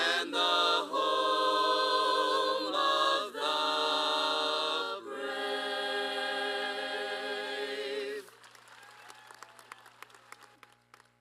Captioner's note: applause